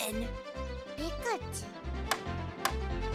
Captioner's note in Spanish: desconcertado